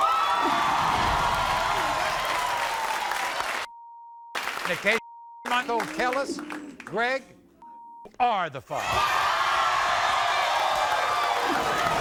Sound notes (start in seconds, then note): 0.0 audience erupts; 7.6 beep; 8.8 audience erupts